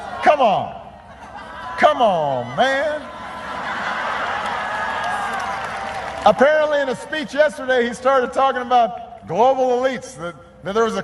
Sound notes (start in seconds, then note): 4.9 laughter